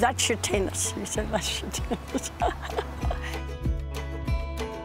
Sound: laughs; light instrumental music

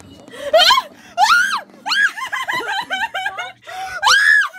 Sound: screaming; screams again

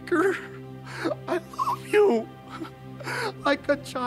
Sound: sobbing

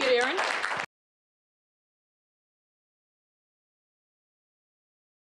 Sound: applause

